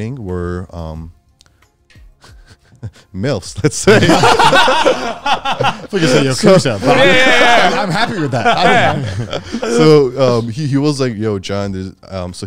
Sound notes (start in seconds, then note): 3.7 all laughing; 6.3 group chatter